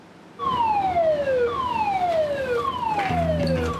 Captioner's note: alarm blaring